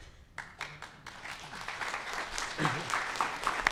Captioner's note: applause